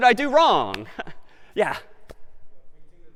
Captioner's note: laughs